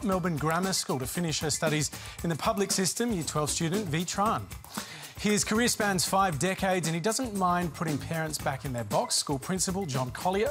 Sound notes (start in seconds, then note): none